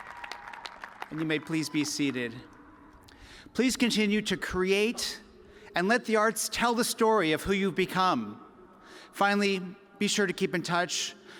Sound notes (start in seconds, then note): 0.0 cheers and applause